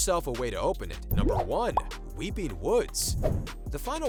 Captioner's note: popping